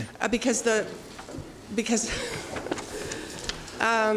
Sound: laughs

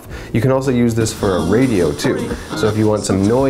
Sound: radio tuning to channel

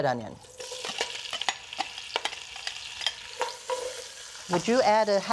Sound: sizzling

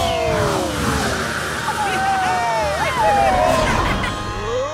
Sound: laughing, cheering

